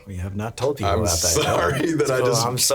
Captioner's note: laughing